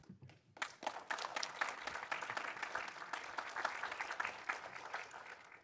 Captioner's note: audience applauding